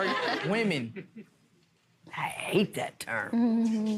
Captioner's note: audience laughs